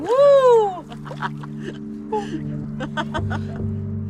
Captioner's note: laughing